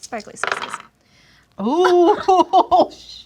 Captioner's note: dice roll